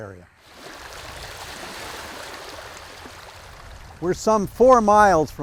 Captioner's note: water sloshes